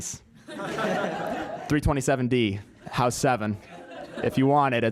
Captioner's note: laugh; laugh